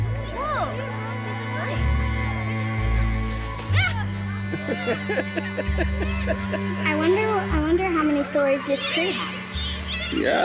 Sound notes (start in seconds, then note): 1.7 children chattering continues; 4.5 laughing